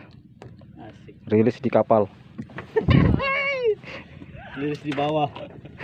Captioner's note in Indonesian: teman tertawa